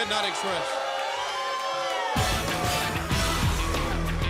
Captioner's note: crowd cheering